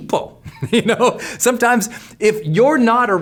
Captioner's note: laughs